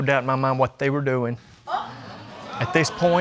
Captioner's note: audience exclaiming